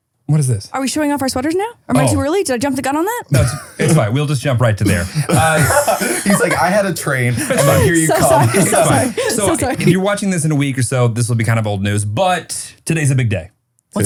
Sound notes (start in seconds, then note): 4.8 laughing